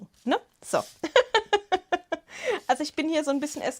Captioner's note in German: Gelächter